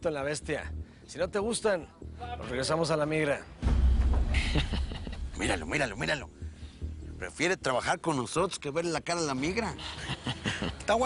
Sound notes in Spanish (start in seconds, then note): 4.4 Ríe; 9.8 Risas